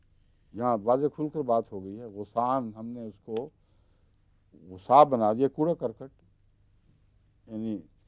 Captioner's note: Arabic